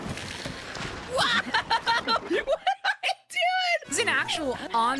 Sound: laughing

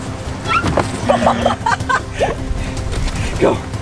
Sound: laughing

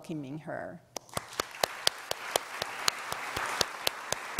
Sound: applause

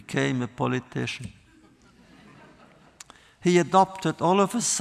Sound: laughter

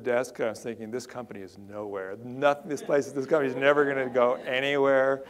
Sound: audience laughter

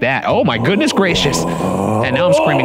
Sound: Shane groans threateningly

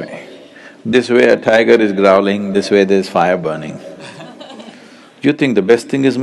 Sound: few laugh

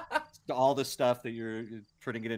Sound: laughing

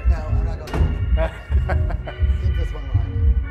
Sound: laughs

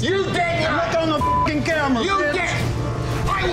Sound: beeping

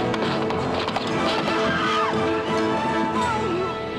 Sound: screams

